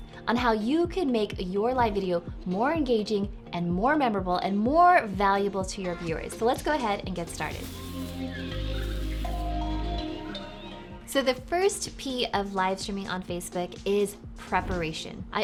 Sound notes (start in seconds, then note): 7.2 jungle sounds, slow music